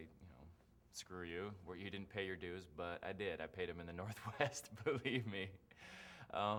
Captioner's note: laughs